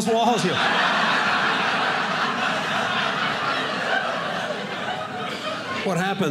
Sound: audience laughing

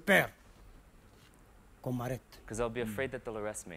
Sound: speaks in a foreign language

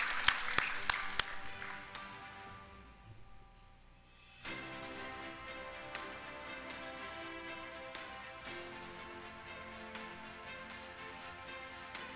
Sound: applause

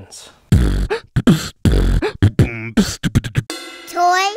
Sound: beat box sound effect

